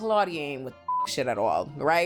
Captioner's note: beep